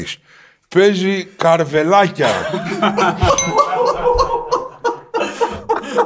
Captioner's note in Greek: γέλια